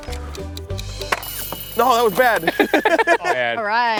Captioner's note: timer rings